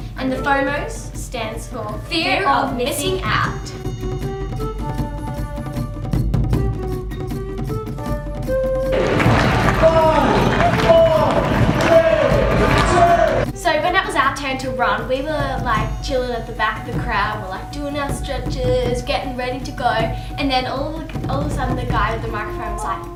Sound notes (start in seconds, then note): 4.5 kung fu music; 9.3 announcer counts down